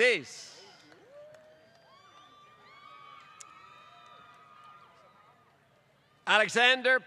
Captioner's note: applause